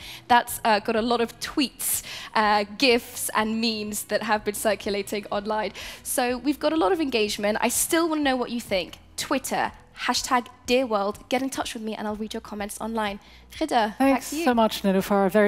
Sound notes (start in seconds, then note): none